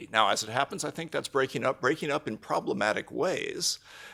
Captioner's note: none